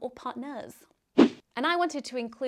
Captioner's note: swishing